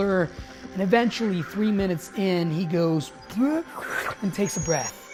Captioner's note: gasping